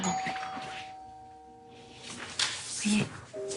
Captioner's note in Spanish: Timbre de la puerta